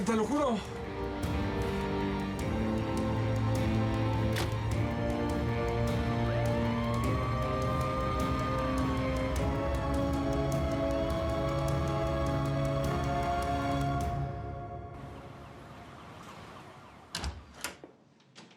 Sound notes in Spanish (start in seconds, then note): 6.3 prenden las sirenas; 17.0 ruido al entrar